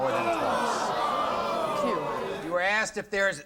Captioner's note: audience groans